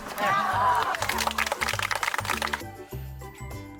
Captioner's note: dramatic music; applause